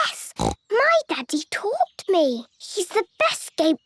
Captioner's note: snorts